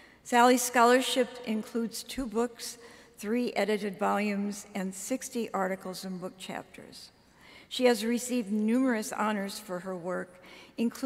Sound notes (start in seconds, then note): none